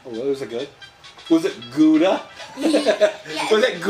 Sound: chuckles

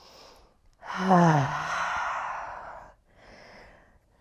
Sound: sighs

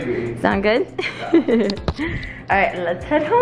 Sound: laughs

